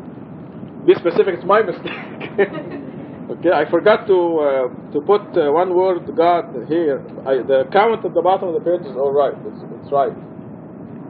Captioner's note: gülüyor